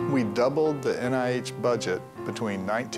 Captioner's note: voiceover